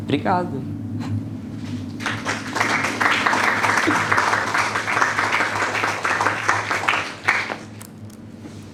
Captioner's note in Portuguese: Aplausos